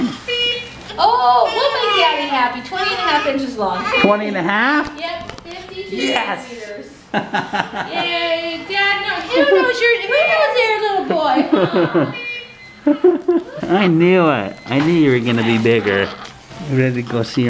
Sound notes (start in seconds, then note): 7.1 laughs